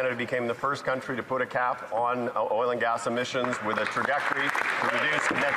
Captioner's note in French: voix de l'interprète